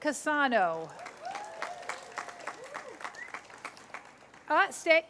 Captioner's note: cheers, applause